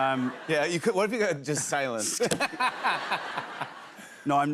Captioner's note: laughter; laughter